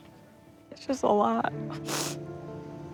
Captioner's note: sobbing